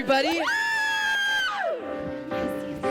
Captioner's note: cheers